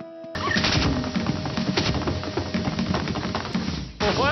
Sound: rattling sound

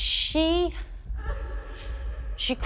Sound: woman crying

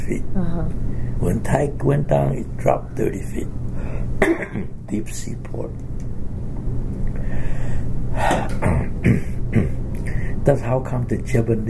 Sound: coughs

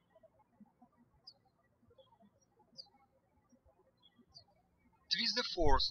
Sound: birds chirping

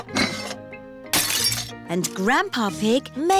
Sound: shattering

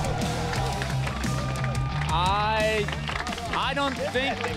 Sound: crowd applauds

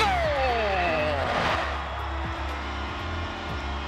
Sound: crowd cheers

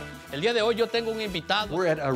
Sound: speaking in Spanish

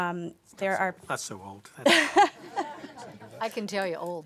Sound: laughter

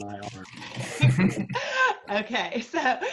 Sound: laughing

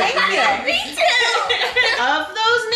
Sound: family laughing

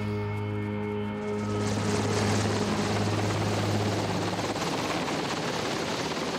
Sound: helicopter whirring

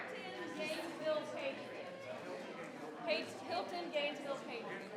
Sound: crowd chattering continues

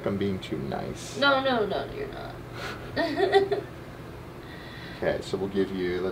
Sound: laughing

